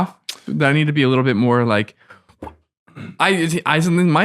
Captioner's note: gasps